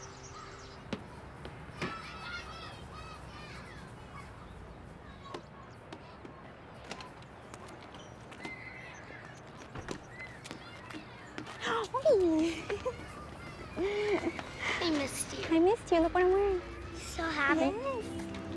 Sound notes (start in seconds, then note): 1.7 children laughing and shouting; 11.3 Alejandra shrieks